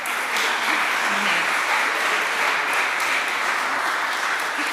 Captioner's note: applause